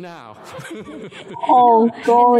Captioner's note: laughter